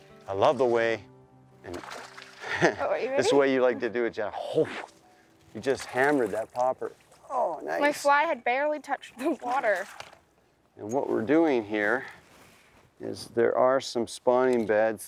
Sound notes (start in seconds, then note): 2.4 chuckling; 4.9 chomping